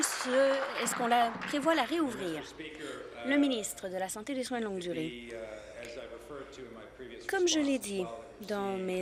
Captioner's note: applause